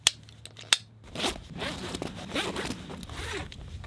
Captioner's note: buckle clicks